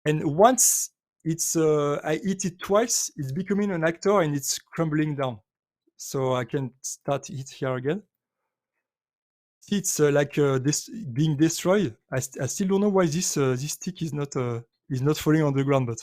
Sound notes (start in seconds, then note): none